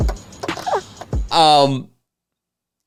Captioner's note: laughing